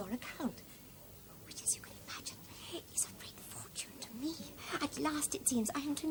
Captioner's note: whispers